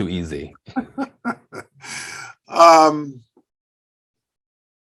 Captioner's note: Senator Jeh laughs